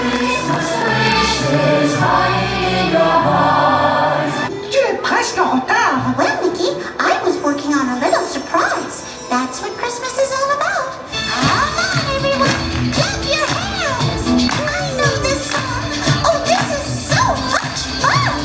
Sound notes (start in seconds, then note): 4.9 Mickey speaks in French; 11.1 upbeat music; 15.4 audience clapping along